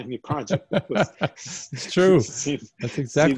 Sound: laugh

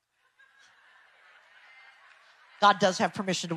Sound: audience laughs distantly

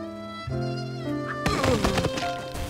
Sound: Max and James groans

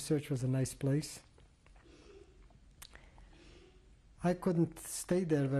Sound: pauses for 3 seconds

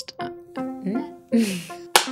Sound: chuckle

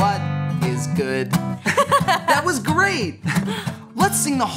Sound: laughing

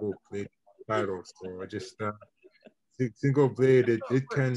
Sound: laughing

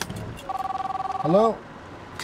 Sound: phone ringing

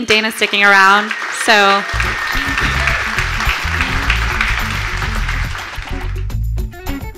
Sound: audience applauding; groovy music

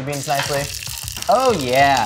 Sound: sizzling

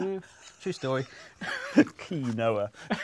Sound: laughs

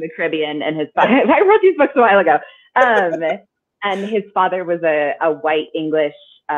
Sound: laughing

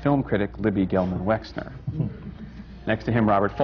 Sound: laughs

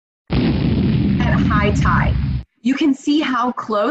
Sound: explosion

